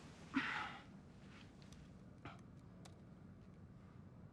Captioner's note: David exhales